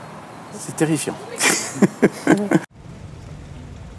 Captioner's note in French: rire